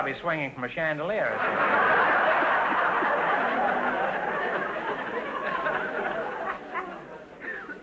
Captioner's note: audience laughter